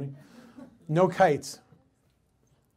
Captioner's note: audience laughs